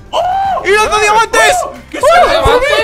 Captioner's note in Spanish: Sorprendido